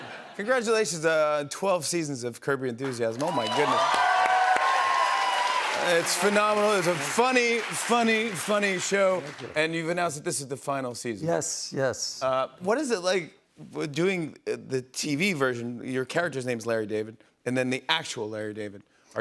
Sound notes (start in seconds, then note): 3.1 cheers and applause